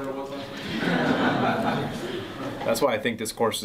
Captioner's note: class laughs